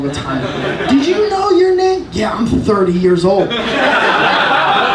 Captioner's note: audience laughing; audience laughing